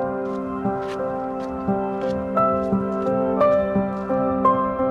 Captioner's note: footsteps crunching